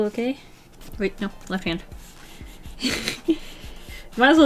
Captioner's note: laughs